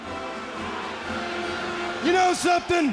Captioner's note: crowd boos